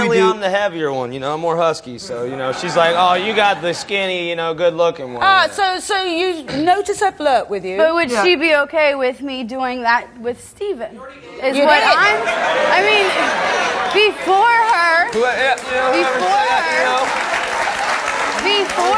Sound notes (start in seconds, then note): 11.6 audience exclaims in disbelief; 17.7 audience applauds